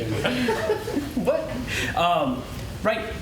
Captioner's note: laughter